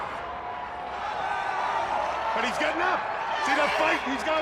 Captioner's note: crowd cheering